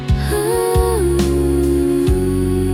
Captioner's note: humming